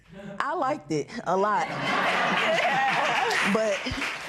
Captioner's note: laughter